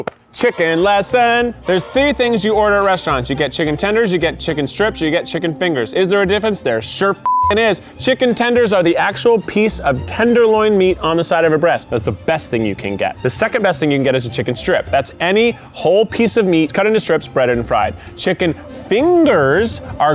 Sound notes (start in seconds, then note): 0.9 bright orchestra music; 7.2 beep